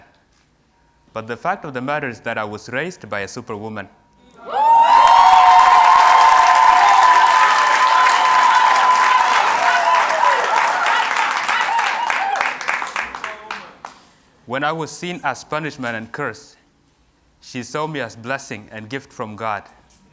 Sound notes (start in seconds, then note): 4.4 cheers and Applause